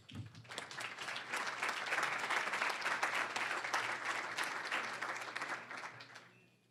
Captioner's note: applause